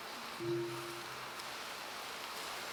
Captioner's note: bell ringing